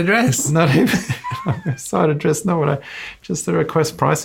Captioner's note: laughs